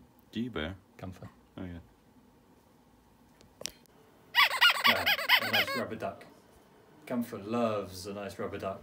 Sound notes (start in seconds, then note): 4.3 rubber duck squeaks